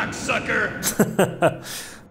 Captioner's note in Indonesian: evil laugh